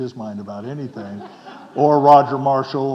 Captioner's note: audience chuckling